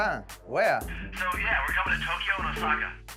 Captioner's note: on phone